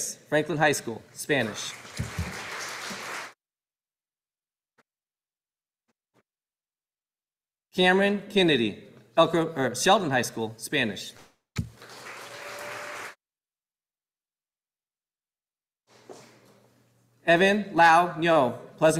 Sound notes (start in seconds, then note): 1.6 audience applauding; 11.6 audience applauding